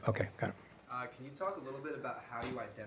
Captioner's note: voiceover